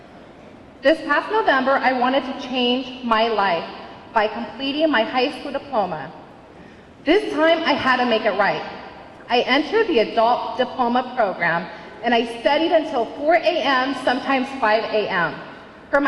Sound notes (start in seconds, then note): none